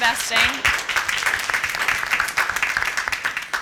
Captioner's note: applause